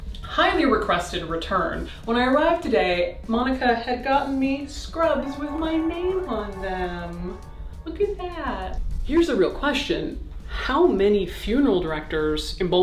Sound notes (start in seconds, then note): 5.0 alarm beeping